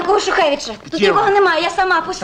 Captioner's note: in russian